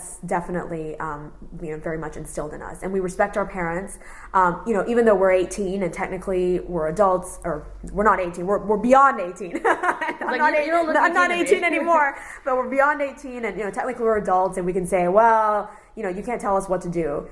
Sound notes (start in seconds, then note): 9.6 laughs